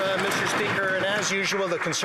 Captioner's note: some Applause